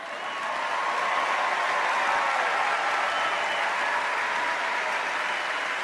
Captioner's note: applause